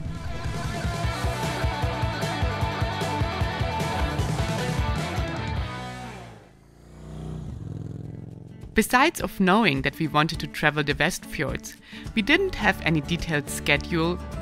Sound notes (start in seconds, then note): 0.0 upbeat rock music; 7.0 motorcycle revving